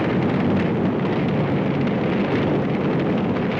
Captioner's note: flames crackling